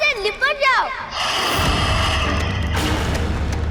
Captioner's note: hissing